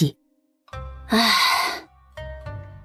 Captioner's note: sigh